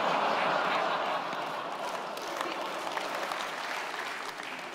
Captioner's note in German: Lacher